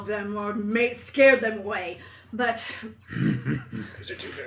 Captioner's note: laughs